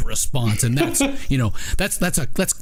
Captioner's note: laughing